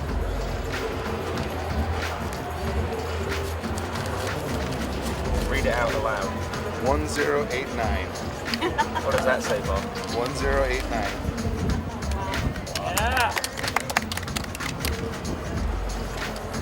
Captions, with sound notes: Read it out loud. - One, zero, eight, nine. (woman laughing) - What does that say Bob? - One, zero, eight, nine. (clapping)